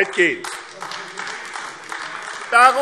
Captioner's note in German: Beifall AfD